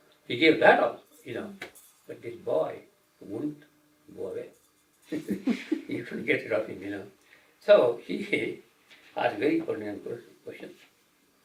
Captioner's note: laughter